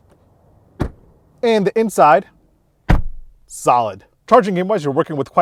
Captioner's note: car door closing